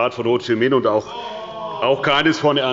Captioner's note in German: Zurufe von der SPD und dem BÜNDNISS 90/DIE GRÜNEN: Oh!